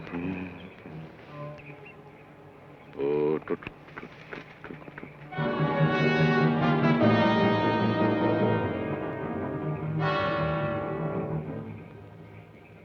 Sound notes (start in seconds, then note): 3.1 Joshua hums melodically; 5.3 tense orchestral music